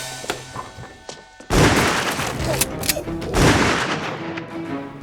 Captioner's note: gun clicks; gunshots banging